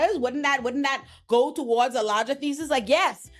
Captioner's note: none